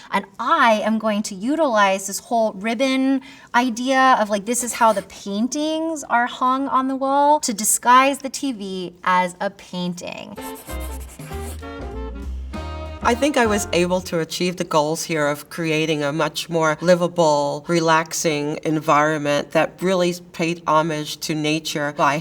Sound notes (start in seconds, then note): 10.4 graphic scratching; 10.4 upbeat music